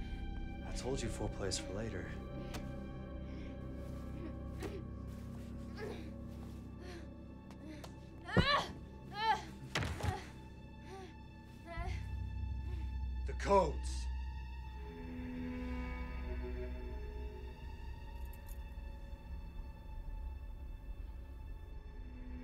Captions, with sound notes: I told you foreplay's for later. (woman groans) (thudding) (light dramatic music) The codes. (dramatic music)